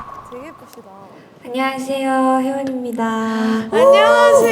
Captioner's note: Saluda con una voz húmeda